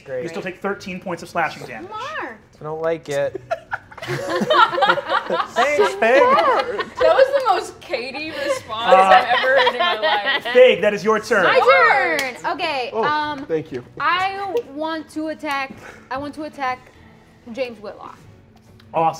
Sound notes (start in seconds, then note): 3.1 players laughing